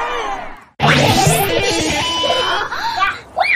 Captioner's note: kids giggling and instruments playing